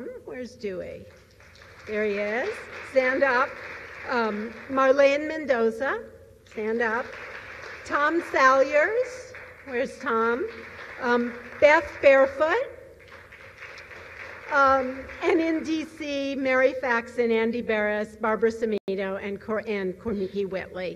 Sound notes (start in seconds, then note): 3.7 applause; 7.5 applause; 12.3 applause; 15.6 applause